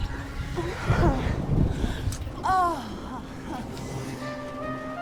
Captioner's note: thunder crashing; moaning; dramatic music